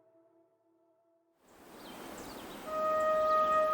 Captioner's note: birds singing